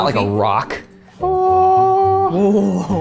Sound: humming

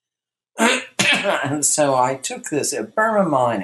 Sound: coughs

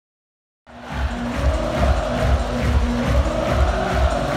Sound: crowd shouting

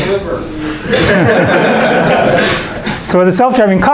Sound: students laughing

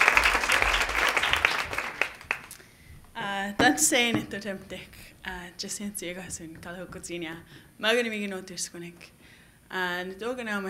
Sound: Cree language greeting

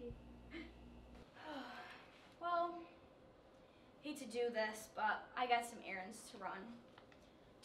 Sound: sigh

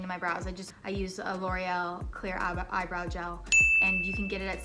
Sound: bell dings

